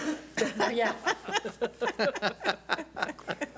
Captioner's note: laughing